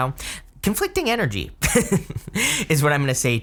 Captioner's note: chuckles